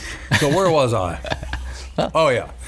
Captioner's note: laughing